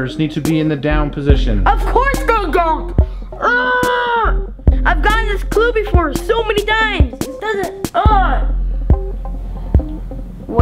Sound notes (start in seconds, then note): 8.0 groaning